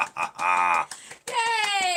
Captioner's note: laughing; clapping